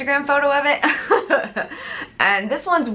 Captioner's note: laughs